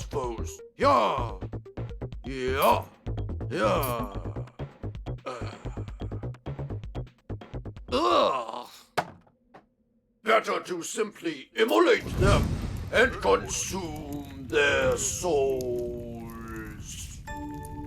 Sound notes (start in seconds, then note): 9.4 increasingly unenthusiastic grunts